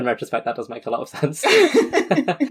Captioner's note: laughing